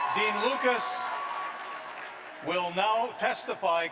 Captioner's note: cheers and applause